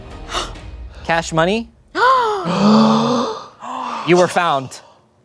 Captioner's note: everyone gasps